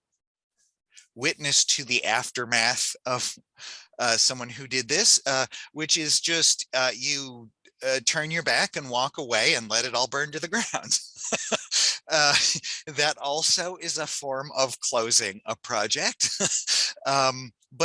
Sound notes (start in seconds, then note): 10.5 laughs; 16.8 chuckles